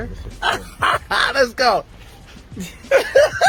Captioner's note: laughing